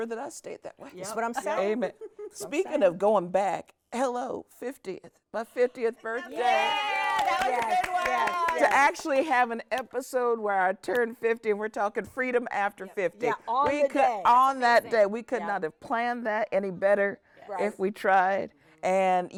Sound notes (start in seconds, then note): 6.3 hosts cheering; 9.2 hosts clapping